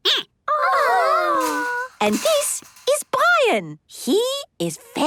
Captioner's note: squeaking